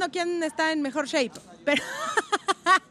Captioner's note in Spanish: Ríe